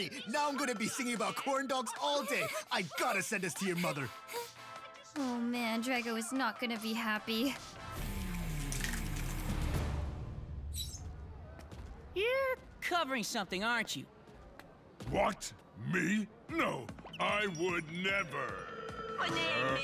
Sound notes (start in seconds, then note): 4.1 laughing nervously